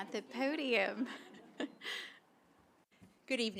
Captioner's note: laughter